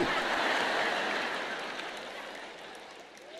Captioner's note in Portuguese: público rindo